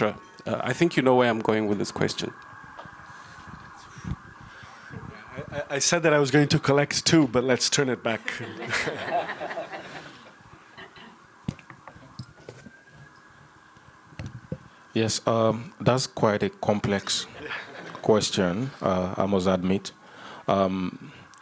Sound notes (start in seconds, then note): 8.2 laughter